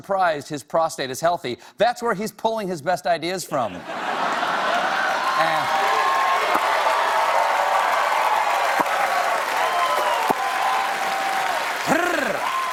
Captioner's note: cheers and applause